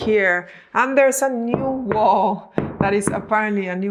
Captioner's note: knocking on wall